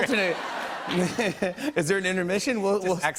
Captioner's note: laughs